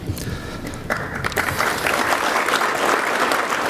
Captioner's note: crowd claps